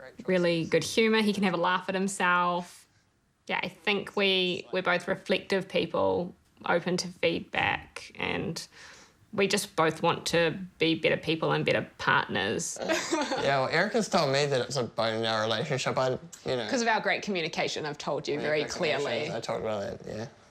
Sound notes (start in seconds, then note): 12.8 laughs